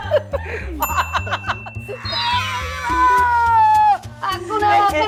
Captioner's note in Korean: 특유의 웃음과 커지는 목소리